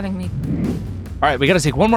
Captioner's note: graphics whooshing